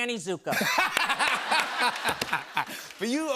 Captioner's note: laughter